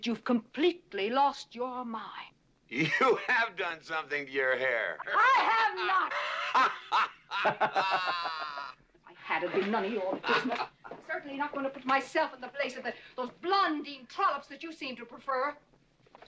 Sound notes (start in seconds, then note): 5.0 laughing